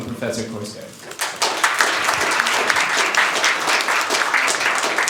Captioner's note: applause